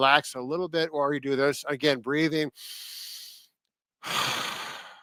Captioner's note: breathing